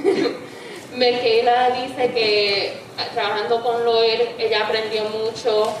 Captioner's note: speaking in foreign language